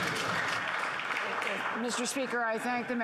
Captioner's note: applause